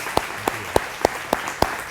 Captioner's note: audience applauding